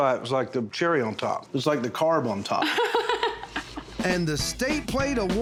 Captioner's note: laughs